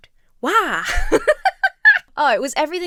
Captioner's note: laughs